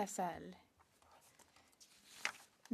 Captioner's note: speaking French